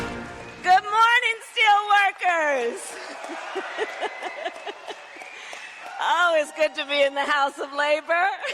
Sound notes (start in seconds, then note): 2.6 applause; 3.0 laughs